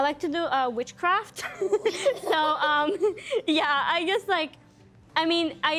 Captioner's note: laughing